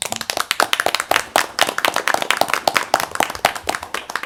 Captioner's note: applause